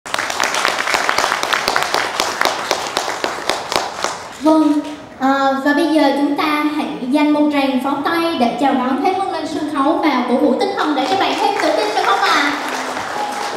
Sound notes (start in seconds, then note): 0.0 audience clapping